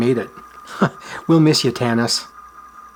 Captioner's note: chuckles